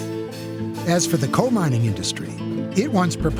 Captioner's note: train brakes squealing